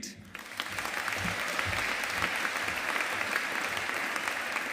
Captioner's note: audience applauding